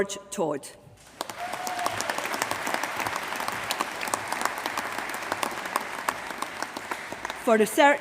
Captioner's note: applause